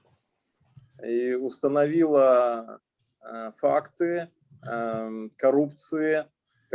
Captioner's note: speaking Russian language